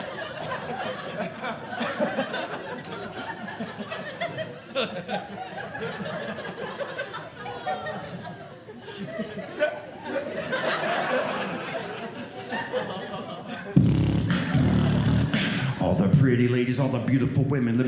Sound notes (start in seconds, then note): 9.4 audience laughing; 13.7 beat boxing